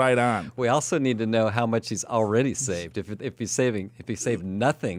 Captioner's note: laughs